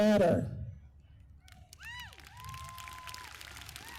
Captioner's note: applause